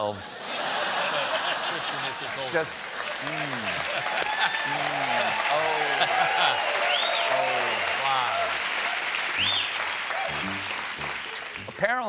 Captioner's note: laughter; applause